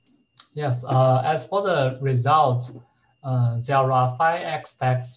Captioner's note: murmurs